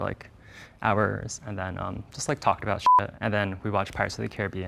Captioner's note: beep